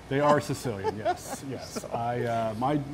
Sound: laughter

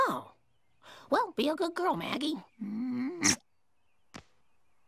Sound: kiss

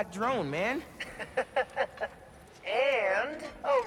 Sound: laughs

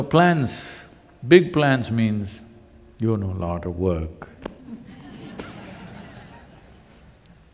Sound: laughter

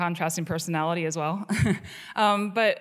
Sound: chuckles

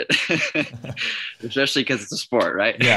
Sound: laughs

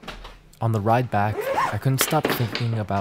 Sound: luggage unzips; luggage clattering

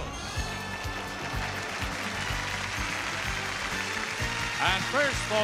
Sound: exciting music; audience applauding

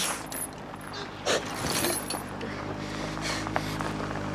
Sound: car approaching

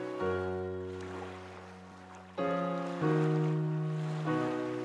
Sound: gentle music; waves lapping

